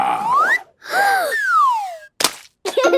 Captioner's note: Peppa gasps; splat